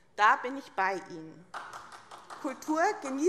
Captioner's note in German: Beifall